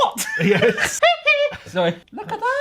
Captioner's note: laughing